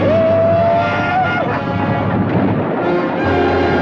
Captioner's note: Apache howls